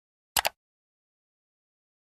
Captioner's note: mouse click sound